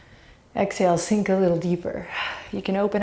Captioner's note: deep breaths